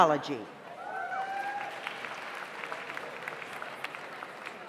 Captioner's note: audience applauds